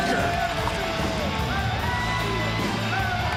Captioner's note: crowd cheers